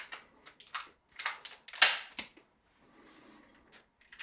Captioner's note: gun clicking